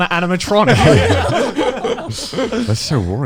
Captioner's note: all laughing